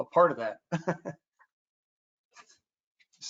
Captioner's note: laughs